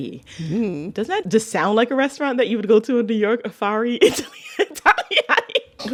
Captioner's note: laughter